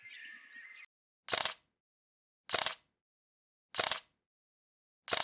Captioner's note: birds chirping; shutter snapping